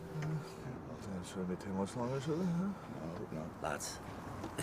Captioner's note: chatting